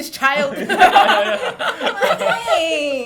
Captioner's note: laughing